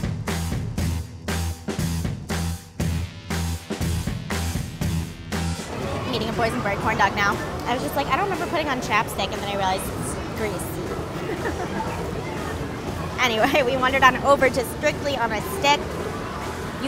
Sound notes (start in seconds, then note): 10.4 laughing